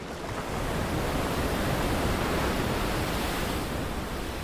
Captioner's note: waves crashing